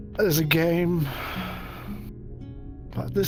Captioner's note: sighs